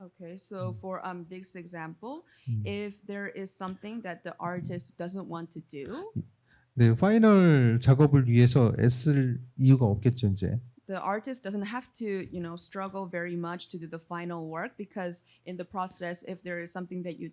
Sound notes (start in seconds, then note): 6.7 speaking korean